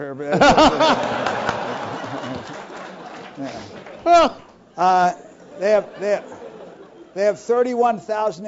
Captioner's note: laugh